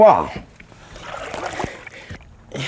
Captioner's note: splash